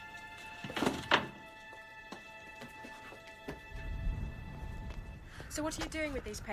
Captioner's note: portrait slams against the ground